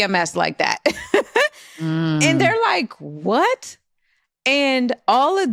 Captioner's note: laughs